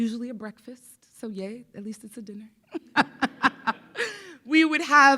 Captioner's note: laughs